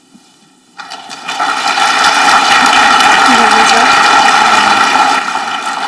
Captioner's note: audience clapping